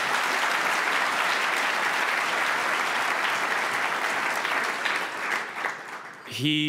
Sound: applause

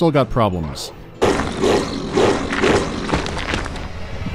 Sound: disturbingly articulated wolf growling

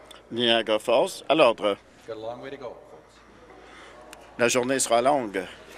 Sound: conversation din

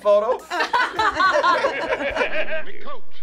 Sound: group laughs

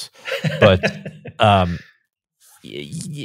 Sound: laughs

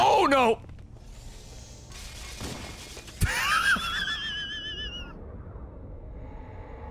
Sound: laughs

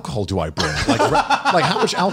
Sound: laughs

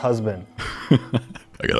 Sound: laughs

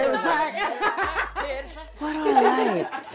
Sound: laughter

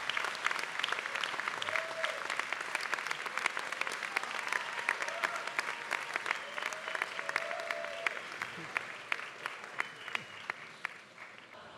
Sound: applause

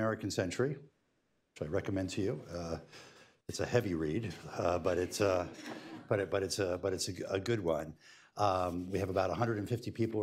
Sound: laughter

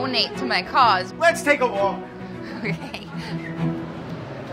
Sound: laughs

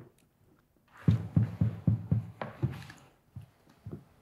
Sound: knocking on door

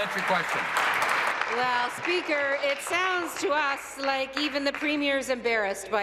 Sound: applause

